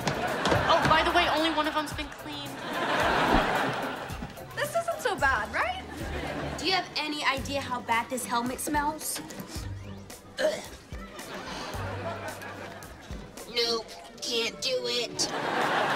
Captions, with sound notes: Oh, by the way, only one of them's been cleaned. This isn't so bad, right? Do you have any idea how bad this helmet smells? [sniffs] [retches] [robotic voice] Nope, can't do it.